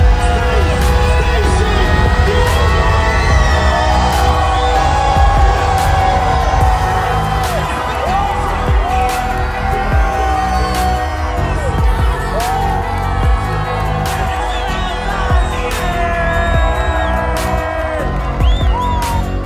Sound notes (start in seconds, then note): 3.8 people clamoring